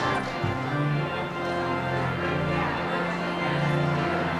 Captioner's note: audience chattering